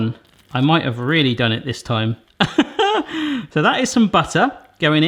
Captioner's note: chuckling